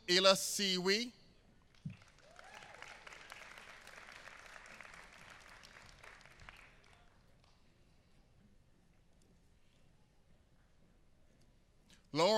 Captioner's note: applause